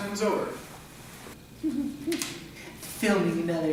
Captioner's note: Francis chuckles to himself